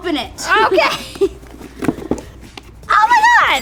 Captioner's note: both laugh